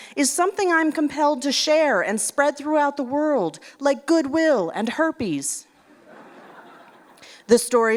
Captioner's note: laughter